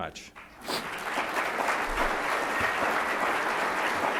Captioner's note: applause